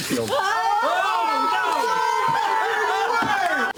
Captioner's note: paper tearing; players screaming